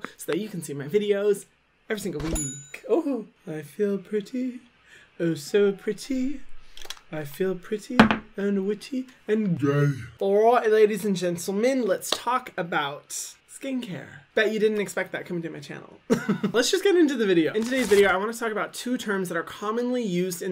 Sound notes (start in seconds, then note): 15.9 laughs